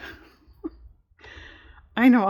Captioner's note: laughs